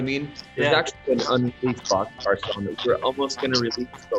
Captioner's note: audio breaks